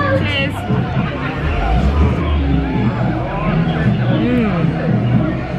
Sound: people chattering; jungle music

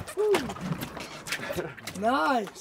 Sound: fish thrashing

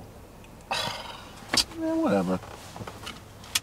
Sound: scoffs

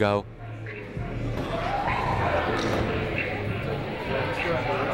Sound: people talking in the crowd

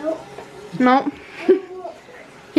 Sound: laughter

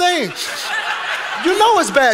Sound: congregation laughing

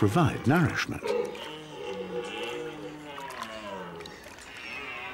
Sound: red deer calling

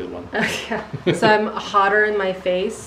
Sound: chuckles

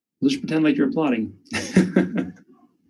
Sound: laughs

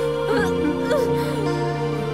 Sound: gasps

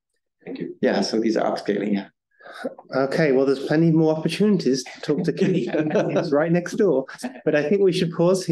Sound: laughter

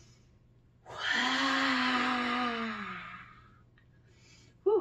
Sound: inhales; exhales dramatically

